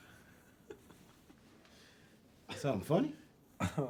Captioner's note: chuckles